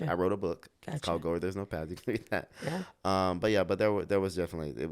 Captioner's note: laughs